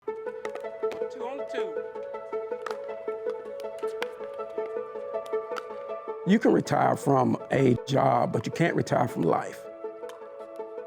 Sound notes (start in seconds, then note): 0.5 bright music; 2.4 ball clacks